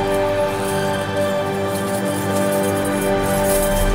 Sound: keys jingling

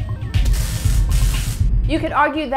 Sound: buzzing; zapping

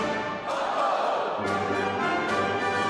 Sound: all shouting

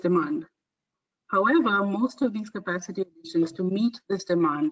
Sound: audio static

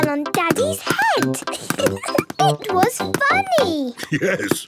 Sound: giggling

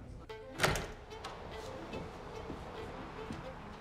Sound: door opens

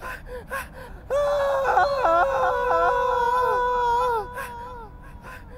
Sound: screams into the night

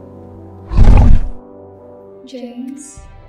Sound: sighing

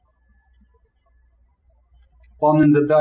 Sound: birds chirping

